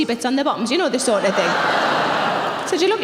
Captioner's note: audience laughing